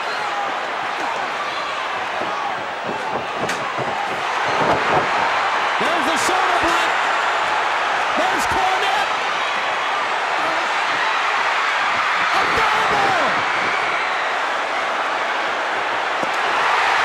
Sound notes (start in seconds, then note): 5.0 mat slams